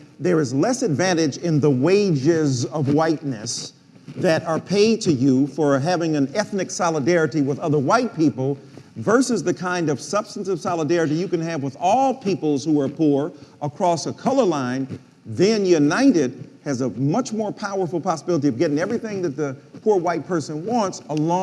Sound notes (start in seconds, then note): none